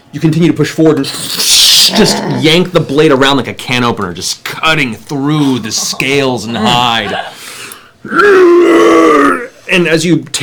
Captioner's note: pained yelling